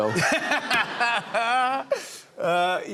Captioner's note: laughter